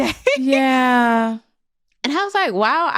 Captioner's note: laughs